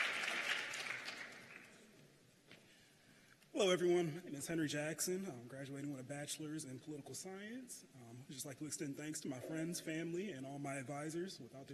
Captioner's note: cheers and applause